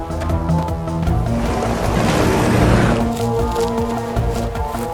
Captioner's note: engine revving